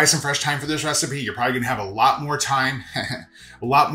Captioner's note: laughs